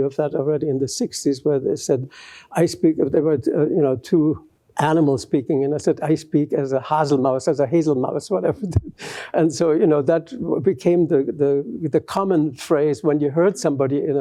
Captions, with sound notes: of that already in the '60s, where they said-- there were two animals speaking. And I said, I speak as a [GERMAN] as a [GERMAN], whatever. And so that became the common phrase when you heard somebody